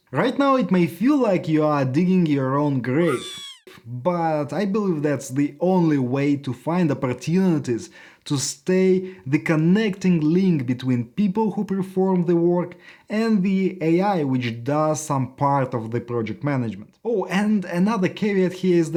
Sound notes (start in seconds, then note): 3.0 animal squeaking